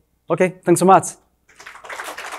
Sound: attendees applauding

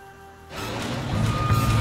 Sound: machine screeching

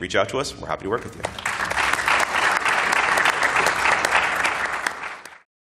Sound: applause

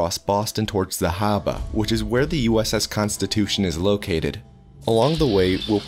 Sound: said in Bostonian accent

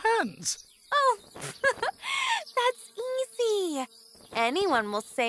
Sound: giggles

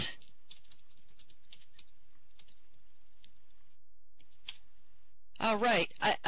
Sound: typing

